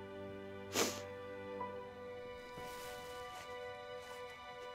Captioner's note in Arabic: لورا تشم